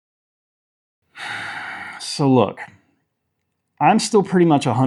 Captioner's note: silence; deep sigh